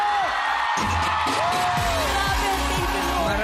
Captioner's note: audience cheering